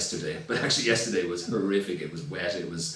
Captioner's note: laughs